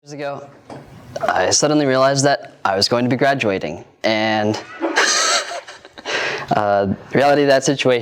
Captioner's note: laughs